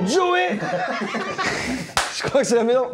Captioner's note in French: rires